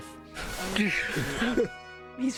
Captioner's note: exclaiming